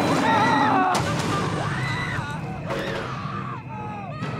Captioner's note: bobby and nancy screaming in distance